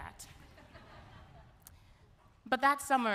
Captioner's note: audience laughs